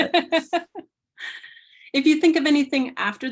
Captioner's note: laughter